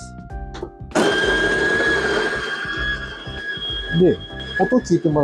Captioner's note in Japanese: 豆が挽かれている音